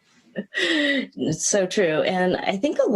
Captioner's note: laughing; laughs